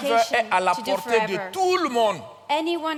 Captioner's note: continues in French